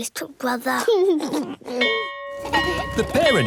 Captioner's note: giggles; bell ringing